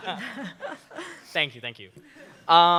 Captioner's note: laughter